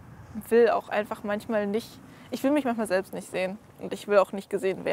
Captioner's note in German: none